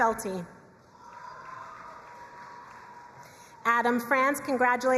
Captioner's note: crowd cheering and applauding